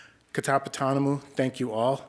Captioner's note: speaking Indigenous language